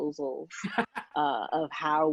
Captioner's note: laughing